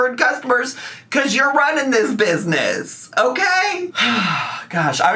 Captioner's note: sighs